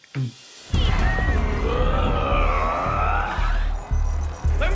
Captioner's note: crowd screaming; growls